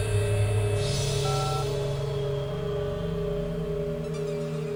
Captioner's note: phone beeping